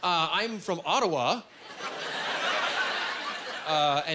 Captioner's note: laughing